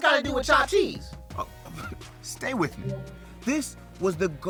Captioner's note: laughs; graphic hums